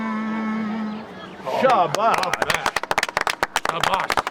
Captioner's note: applause